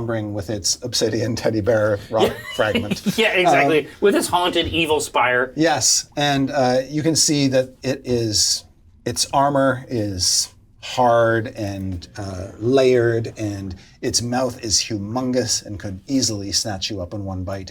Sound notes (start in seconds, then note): 2.0 laughs